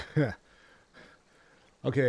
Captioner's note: laughs